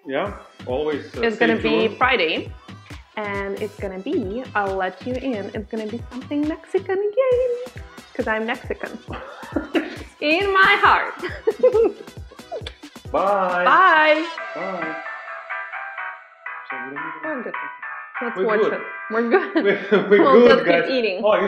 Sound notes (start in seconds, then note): 9.1 man laughs; 11.2 laughs